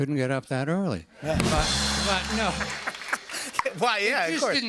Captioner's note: laughter